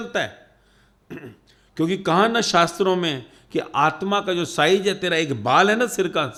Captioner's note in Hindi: गला साफ़ करने की आवाज़